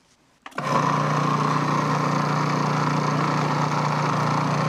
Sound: processor whirring

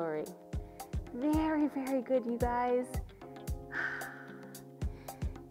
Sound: sighs

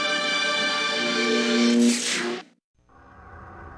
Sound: mechanical sounds; dramatic sounds

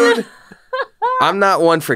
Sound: laughs

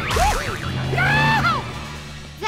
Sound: screaming

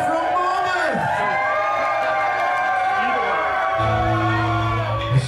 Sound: cheers

